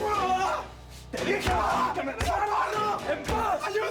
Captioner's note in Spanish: Grito